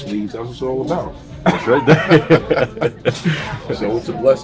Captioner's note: laughing